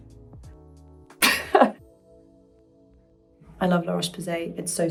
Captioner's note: chuckles